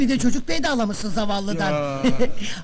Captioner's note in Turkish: arkadan sesler yükseli̇r